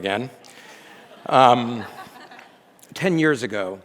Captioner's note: audience laughs